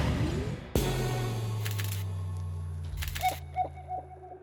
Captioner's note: camera clicking